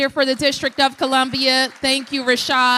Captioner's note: applause